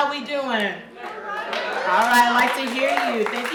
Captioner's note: audience cheering